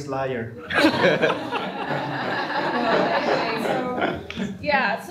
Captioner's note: laughter